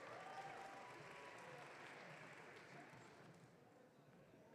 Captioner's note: audience cheering